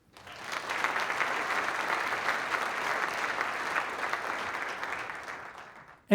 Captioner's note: applause